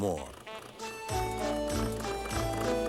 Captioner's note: honking